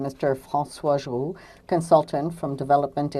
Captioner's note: speaking french